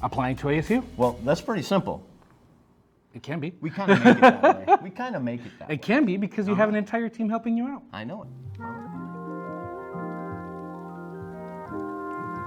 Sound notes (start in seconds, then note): 3.7 laughing; 7.9 soft lighthearted music